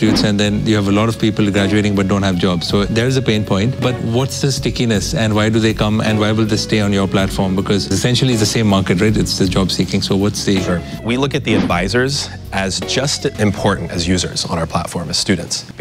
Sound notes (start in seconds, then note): none